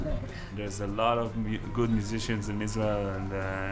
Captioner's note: laughs